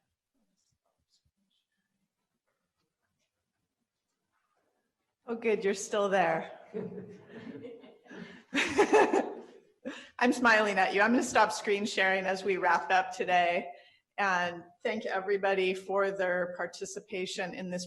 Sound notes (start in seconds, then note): 8.9 laughing